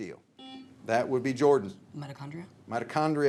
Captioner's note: signal beeps